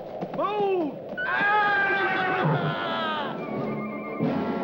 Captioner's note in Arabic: صهيل الحصان; صراخ الجندي; موسيقى درامية